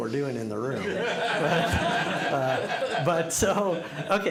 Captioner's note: laughter